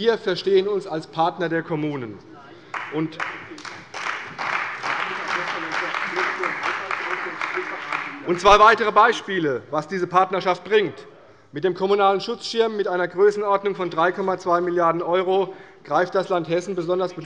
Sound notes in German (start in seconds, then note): 2.6 Beifall bei der CDU und dem BÜNDNIS 90/DIE GRÜNEN